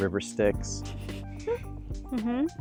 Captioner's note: laughing